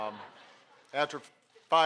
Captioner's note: laughter